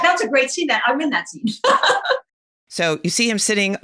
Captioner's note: laughing